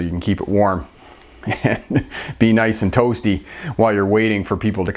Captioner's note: chuckling